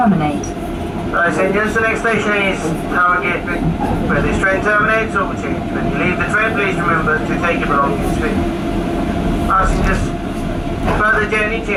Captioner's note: train Operator Announcement